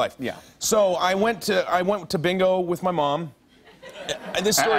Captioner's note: laughter